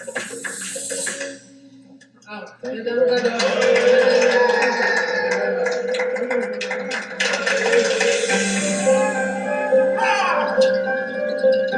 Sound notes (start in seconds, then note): 3.0 people applauding; 8.8 pleasant music